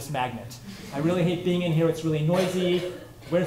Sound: laughter

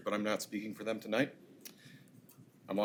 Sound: none

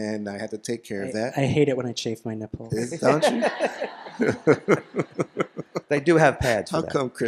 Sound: laughter

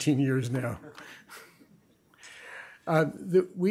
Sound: chuckling

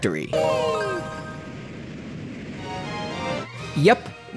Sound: Mario noises

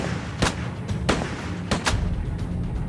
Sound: gunshots

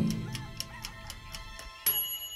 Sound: rooster crowing; clock ticking; dinging

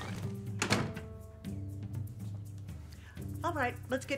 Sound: door closes

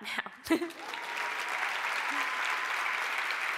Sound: applause

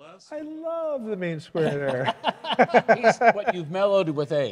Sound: laughs

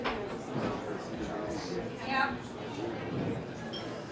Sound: people chattering

